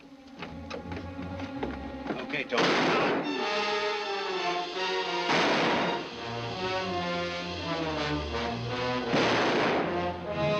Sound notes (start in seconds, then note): 2.5 gun firing